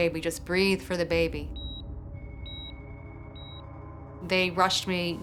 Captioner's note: beeping